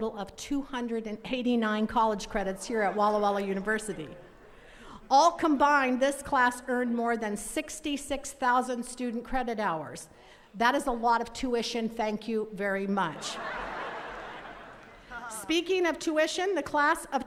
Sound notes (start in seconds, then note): 13.1 attendees laughing